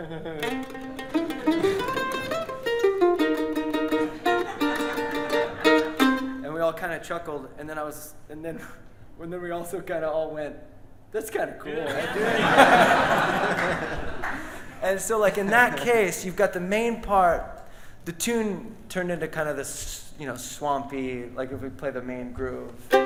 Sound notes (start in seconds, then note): 4.0 audience laughing; 11.8 giggles; 11.8 audience and band laughs; 13.3 audience claps